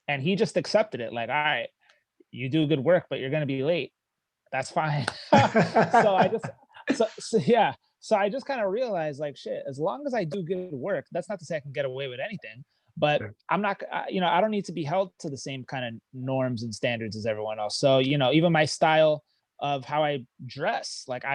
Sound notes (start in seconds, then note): 5.1 laughing